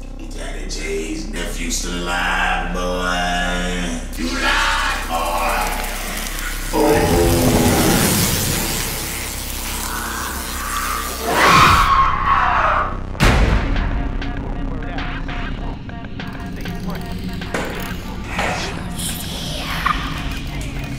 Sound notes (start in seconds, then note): 5.0 buzzing, crackling; 9.7 screams